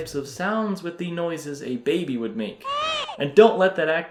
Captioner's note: Baby Mario cries